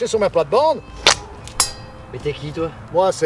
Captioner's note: clang